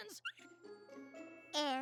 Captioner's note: squeak!